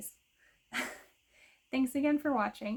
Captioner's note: laughs